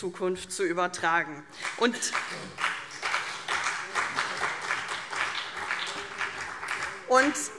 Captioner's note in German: Beifall CDU und BÜNDNIS 90/DIE GRÜNEN